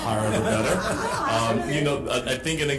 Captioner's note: group laughing